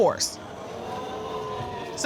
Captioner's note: audience exclaiming